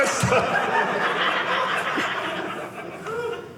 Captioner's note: audience laughing